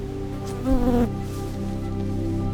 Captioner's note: hoverfly attacking mic